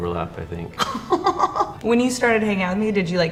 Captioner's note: interviewee giggles